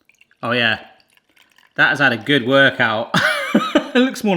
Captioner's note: laughs